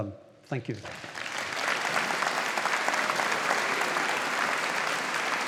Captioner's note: audience applauding